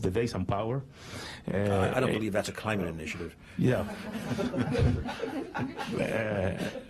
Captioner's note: laughter